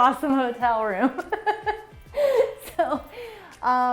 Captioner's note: laughing